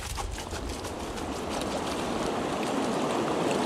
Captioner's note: rushing water